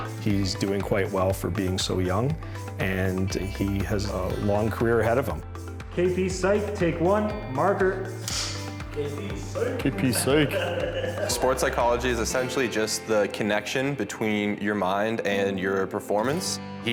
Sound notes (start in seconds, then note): 8.2 snapping; 9.3 laughing